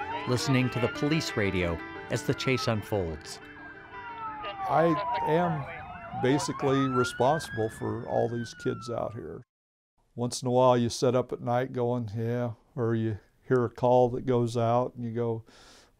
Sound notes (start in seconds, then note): none